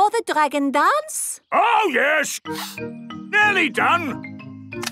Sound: sniffing

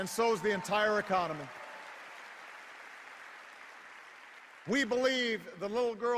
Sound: cheers and applause

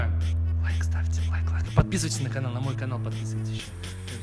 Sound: in a whisper

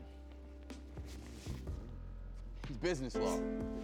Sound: bag rustling

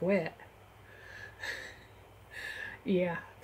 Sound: chuckle

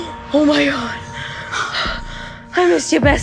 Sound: heavy breathing

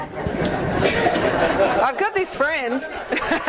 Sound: audience laughs

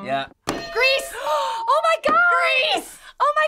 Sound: hitting bell; gasping

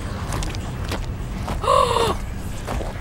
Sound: gasps

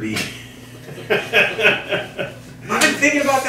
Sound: chuckling

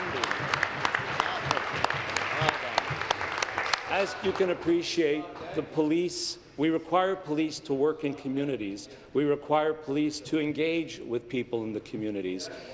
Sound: applause

